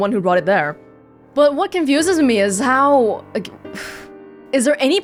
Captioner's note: exhales